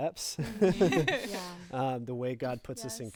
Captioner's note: group laughing